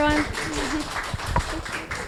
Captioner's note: attendees clapping